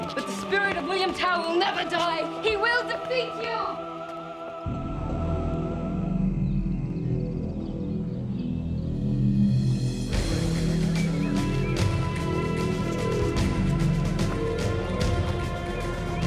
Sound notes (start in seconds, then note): 4.2 dramatic music; 10.2 chatter